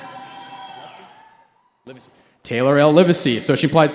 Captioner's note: cheering